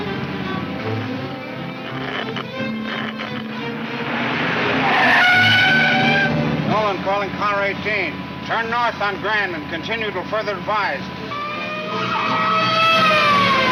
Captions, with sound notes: (radio crackles) Nolan calling Car 18. Turn north on Grand, continue til further advised. (police siren blares)